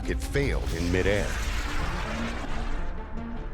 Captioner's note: rocket whooshing